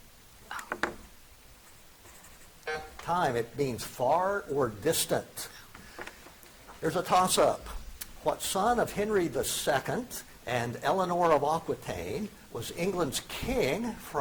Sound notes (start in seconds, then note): 1.0 object clunking; 2.6 buzzer beeps